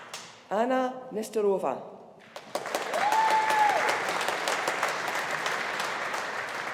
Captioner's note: audience applauding